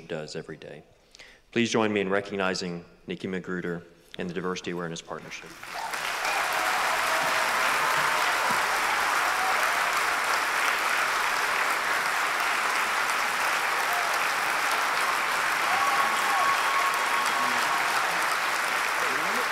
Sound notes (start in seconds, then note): 5.3 applause